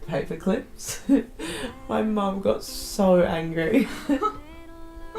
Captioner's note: laughs